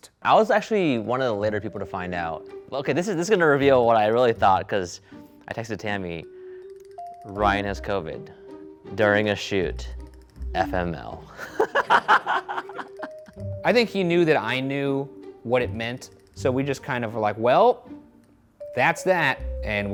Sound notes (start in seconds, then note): 11.3 laughs